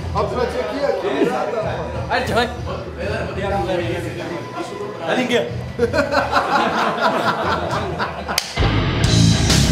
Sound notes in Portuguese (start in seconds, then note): 5.7 ricardo oliveira rindo